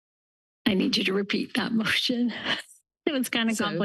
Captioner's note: laughter